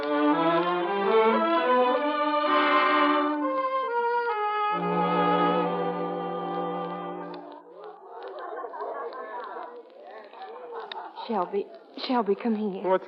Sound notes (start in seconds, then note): 4.8 crowd chattering